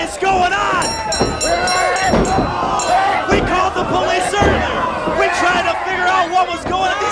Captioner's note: bell sounds